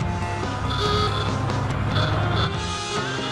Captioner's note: horn honks